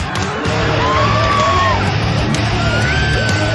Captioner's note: crowd screaming